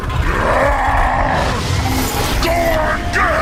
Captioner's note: roars